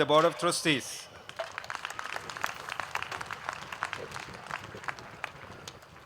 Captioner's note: applause